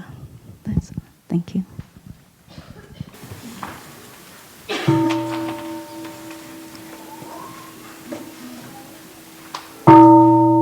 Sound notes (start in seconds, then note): 4.8 gong